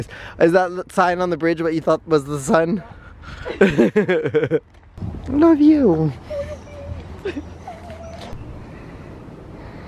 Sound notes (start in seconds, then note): 3.3 laugh; 6.0 in squeaky voice